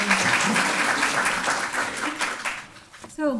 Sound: applause

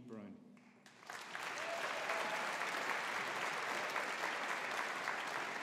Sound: audience applauding

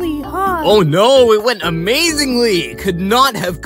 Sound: sarcastically

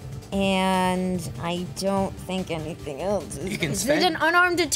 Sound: whispers under breath

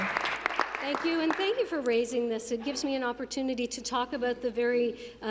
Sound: applause

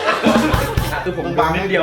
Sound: laughing

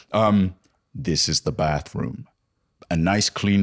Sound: impassive voice

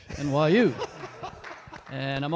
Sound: audience laughs

